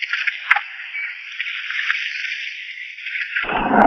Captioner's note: birds chirping